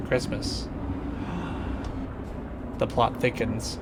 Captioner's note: gasp